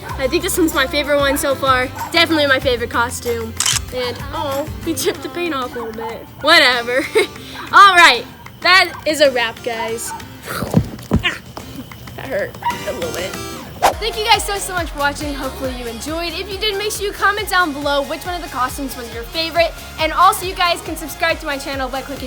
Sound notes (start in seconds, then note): 4.5 awws